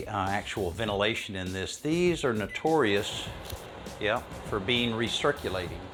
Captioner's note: hot air blowing